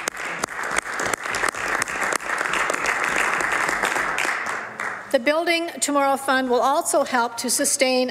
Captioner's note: some Applause